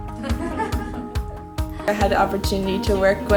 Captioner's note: laughter